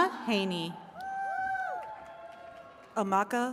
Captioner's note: attendees cheering